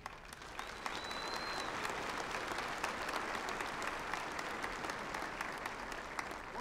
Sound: applause

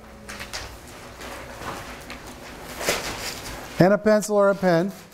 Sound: papers shuffling

